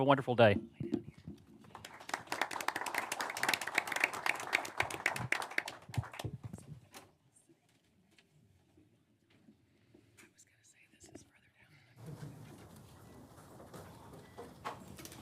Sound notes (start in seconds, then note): 4.6 applause